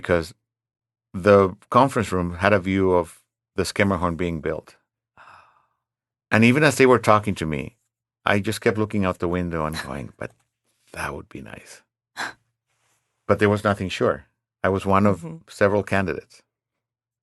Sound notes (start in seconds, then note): 5.3 quietly